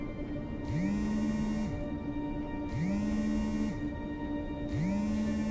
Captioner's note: phone vibrating